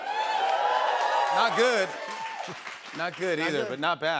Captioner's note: cheers and applause